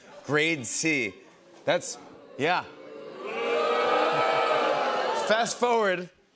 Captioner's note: crowd booing